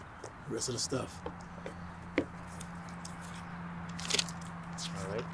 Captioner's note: traffic buzzing continues; papers rustling